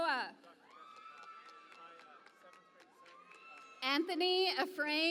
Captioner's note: cheering and Applause